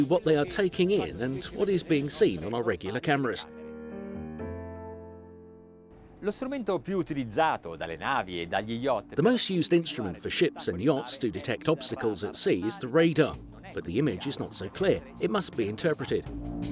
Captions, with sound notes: what they are taking in and what is being seen on our regular cameras. (speaking in a foreign language) The most used instrument for ships and yachts to detect obstacles at sea is the radar, but the image is not so clear, it must be interpreted.